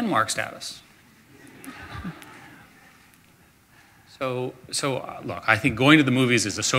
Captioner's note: audience laughter